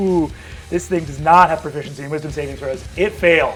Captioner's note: laughs